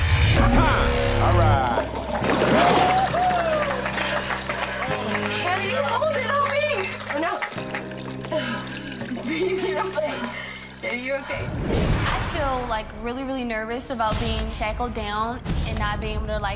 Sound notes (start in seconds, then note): 0.2 laughs; 1.9 audience cheering and applauding; 7.4 gasping